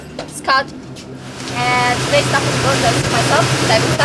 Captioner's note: water swishes